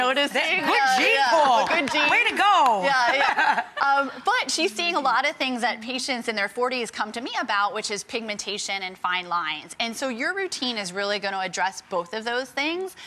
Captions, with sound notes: Good gene pool. Way to go. (laughs) But she's seeing a lot of things that patients in their 40s come to me about which is pigmentation, fine lines and so you're routine is really gonna dress both of those things.